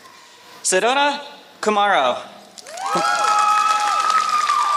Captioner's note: applause